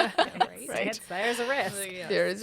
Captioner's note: laughter